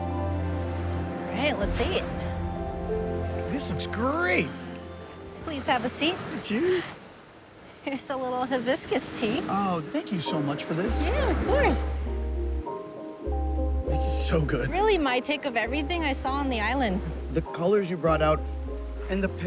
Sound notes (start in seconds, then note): 0.0 gentle twinkly music; 11.3 waves crashing; 14.6 gentle music